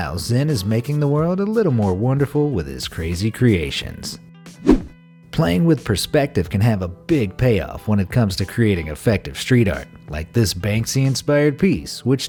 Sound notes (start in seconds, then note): 4.6 air whooshing